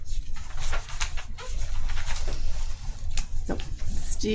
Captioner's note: paper rustling